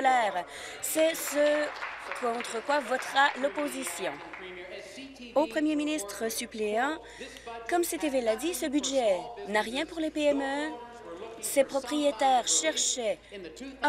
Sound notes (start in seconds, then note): 5.0 applause